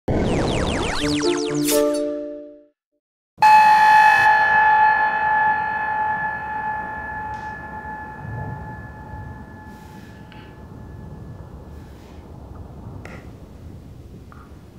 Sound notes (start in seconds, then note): 0.0 siren ringing; 7.9 clanging, whirring